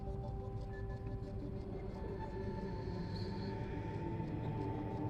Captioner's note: echoing voice speaking